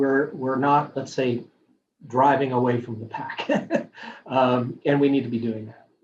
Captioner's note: laughing